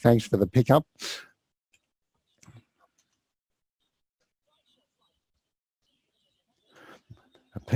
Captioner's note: pause